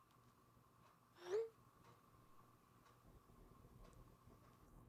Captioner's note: phone beeps